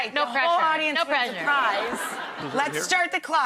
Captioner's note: audience laughs